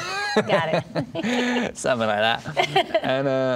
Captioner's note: laughing